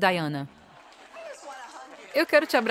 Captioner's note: crowd applauds